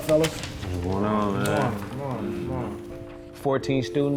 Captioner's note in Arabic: ثرثرة